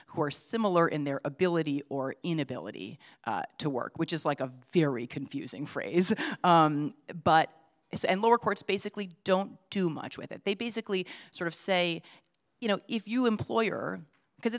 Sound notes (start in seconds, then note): none